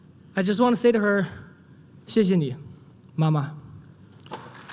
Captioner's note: non-english; applause